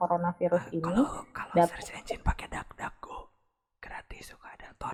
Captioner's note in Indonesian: bisikbisik rahasia dudududu